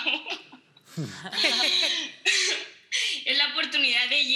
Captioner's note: laughing